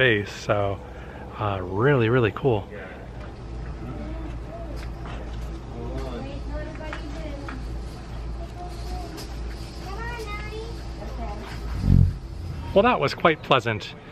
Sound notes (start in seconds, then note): 11.6 buzzing